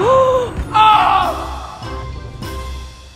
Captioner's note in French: cri de douleur